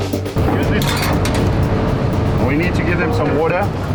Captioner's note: cage rattling